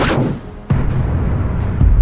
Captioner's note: laser blast impacts; muffled impacts